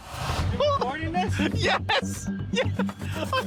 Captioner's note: laughing; laughs